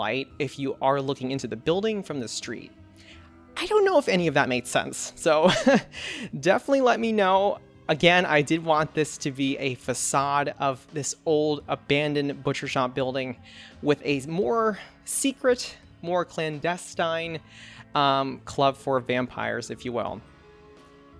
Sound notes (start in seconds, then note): 5.5 laughs